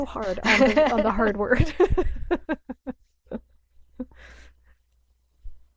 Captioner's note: laughs; laughing